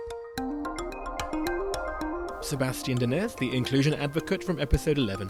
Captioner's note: voiceover